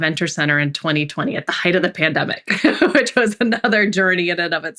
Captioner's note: laughs